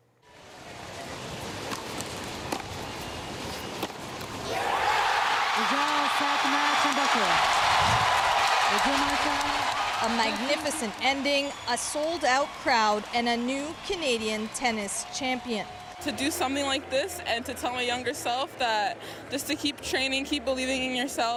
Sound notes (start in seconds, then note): 4.4 cheers and applause